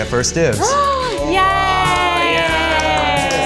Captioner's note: gasps